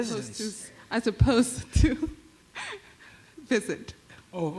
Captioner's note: laughs